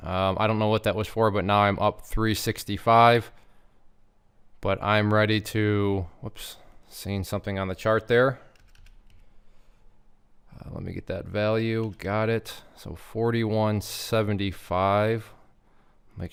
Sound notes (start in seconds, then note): 9.0 keyboard clacking